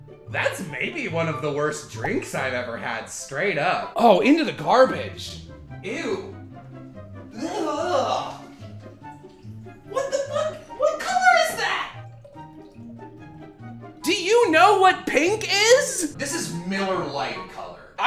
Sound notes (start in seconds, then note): 7.3 incomprehensible disgusted noises